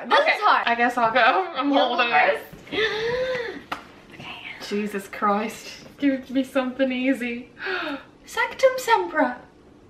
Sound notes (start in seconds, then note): 7.2 slow gasp